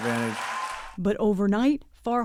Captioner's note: cheering